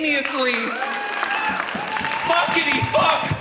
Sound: audience cheers

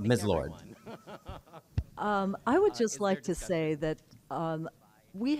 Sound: laughter

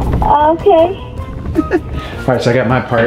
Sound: laughs

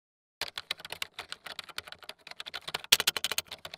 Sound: keyboard typing

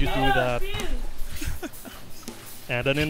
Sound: laughing

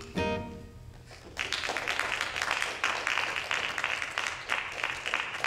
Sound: audience applauding

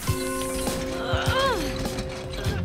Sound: grunting

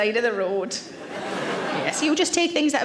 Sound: audience laughs

